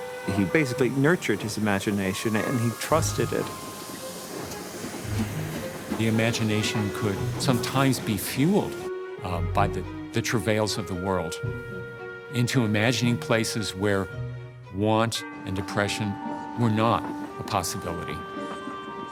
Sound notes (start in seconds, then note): 4.7 train rumbling